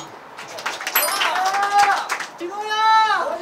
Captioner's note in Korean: 컷과 함께 들려오는 박수 소리